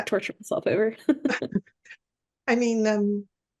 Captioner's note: laughs